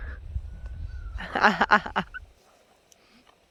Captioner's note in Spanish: risas